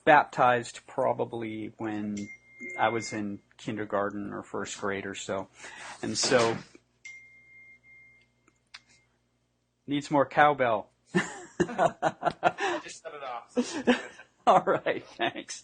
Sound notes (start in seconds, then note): 7.0 ding in background; 11.1 laughing